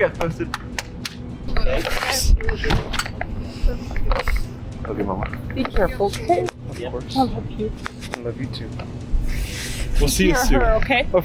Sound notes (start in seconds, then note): 1.6 people chattering indistinctly